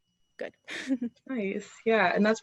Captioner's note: chuckles